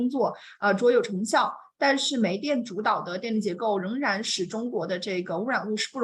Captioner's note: continues speaking in Mandarin